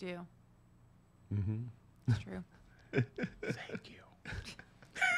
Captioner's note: whispers